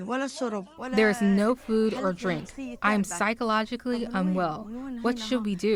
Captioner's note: through translator